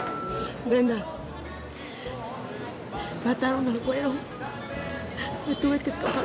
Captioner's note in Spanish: Entre sollozos